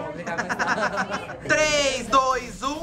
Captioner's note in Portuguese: risos